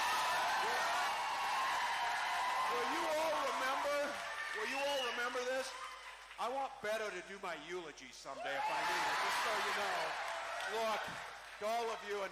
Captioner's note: cheering